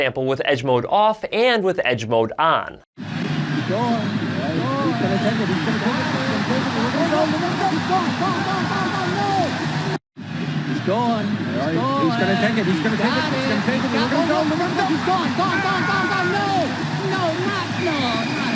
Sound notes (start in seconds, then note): 3.2 crowd cheering